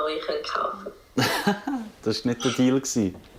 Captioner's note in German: Lachend